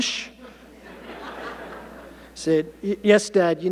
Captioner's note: audience laughing